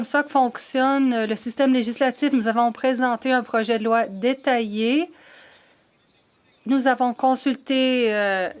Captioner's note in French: voix de l'interprète